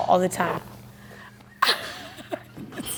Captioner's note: laughs